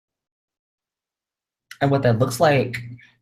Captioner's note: audio cuts out